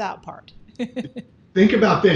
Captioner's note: giggles